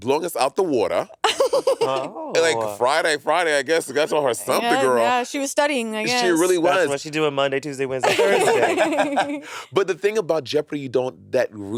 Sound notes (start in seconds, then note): 1.2 laughing; 8.0 laughing